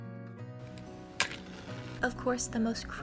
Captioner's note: strikes match